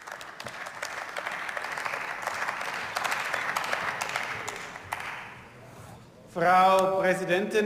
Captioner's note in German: Beifall